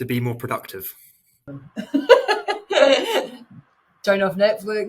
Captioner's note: laughing